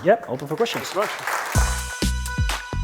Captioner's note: applause